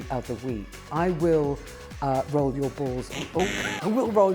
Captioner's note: buzzing sound